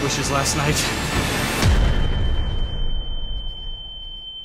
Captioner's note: high-pitched ringing